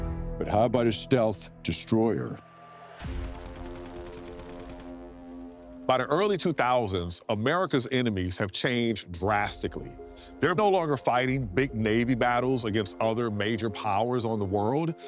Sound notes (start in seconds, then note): 2.4 tense dramatic music; 3.0 guns blasting